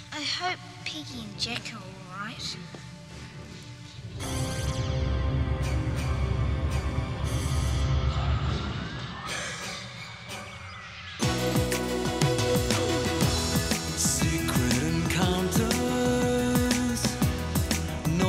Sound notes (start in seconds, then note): 3.2 ominous music; 9.4 gasps; 11.2 upbeat music